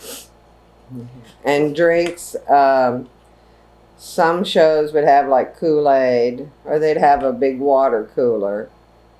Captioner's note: laughs